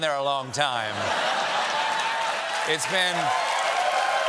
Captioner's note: applause